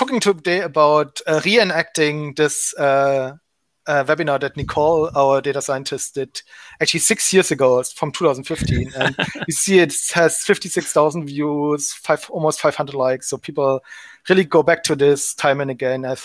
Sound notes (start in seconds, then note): 8.6 giggling